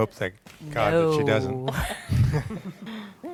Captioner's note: laughter